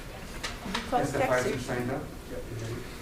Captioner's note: background talking